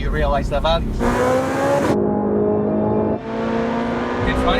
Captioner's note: car engine revving